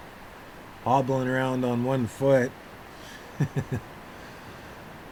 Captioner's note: laughter